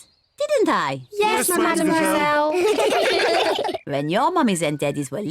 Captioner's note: all laugh